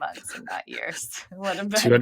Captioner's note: <Laugh>